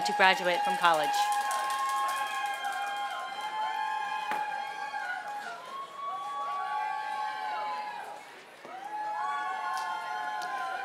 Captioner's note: applause